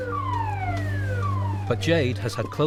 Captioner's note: siren blaring